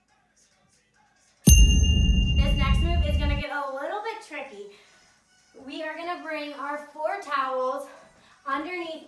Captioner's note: ding